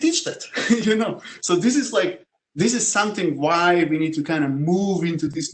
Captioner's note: laugh